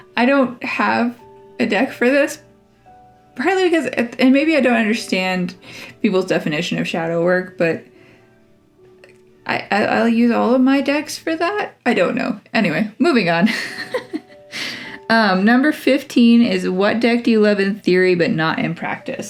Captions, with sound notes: I don't have a deck for this, partly because, and maybe I don't understand people's definition of shadow work but, I, I'll use all of my decks for that? I don't know! Anyway, moving on (laugh)! Um, number fifteen is "what deck do you love in theory but not in practice?"